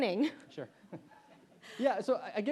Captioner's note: chuckles